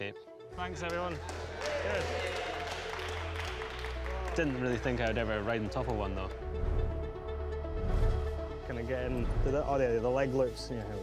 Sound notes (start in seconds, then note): 0.7 cheering, applause